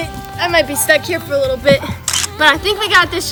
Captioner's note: camera clicks